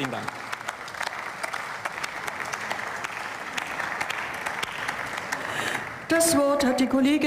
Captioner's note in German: Beifall